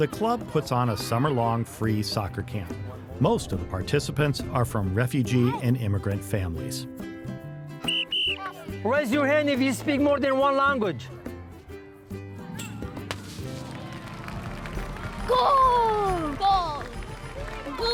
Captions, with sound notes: The club puts on a summer long free soccer camp. Most of the participants are from refugee and immigrant families. (gentle music) (whistle blows) - Raise your hand if you speak more than one language. (gentle music) (clunk) (clapping) - Goal! - Goal!